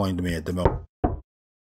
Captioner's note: knock knock